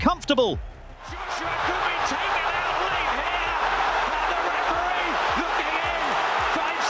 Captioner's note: crowd cheers